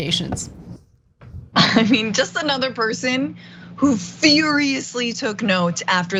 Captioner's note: laugh